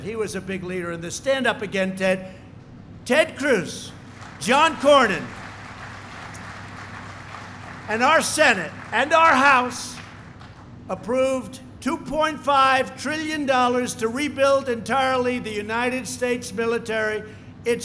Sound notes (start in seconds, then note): 3.9 applause